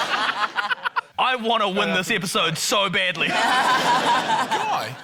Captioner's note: laughter; laughter